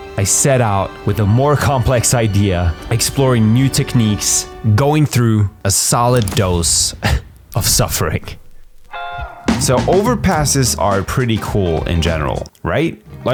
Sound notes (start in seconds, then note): 6.9 laugh